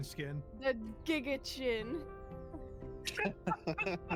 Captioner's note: giga-chin laughter; laughs